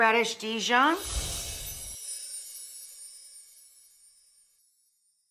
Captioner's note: chimes tinkling